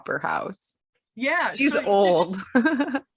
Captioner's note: laugh